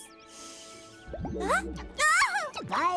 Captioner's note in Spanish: grita